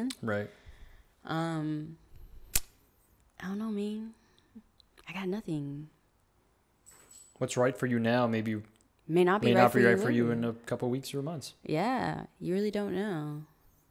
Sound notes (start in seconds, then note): none